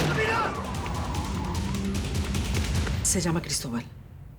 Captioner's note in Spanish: ruido al alejarse el auto